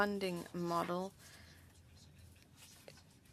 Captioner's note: speaking French